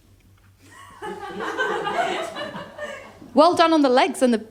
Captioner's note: laughter